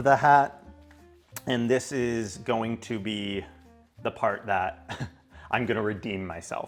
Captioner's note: laughs